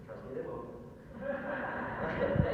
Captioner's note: audience laughter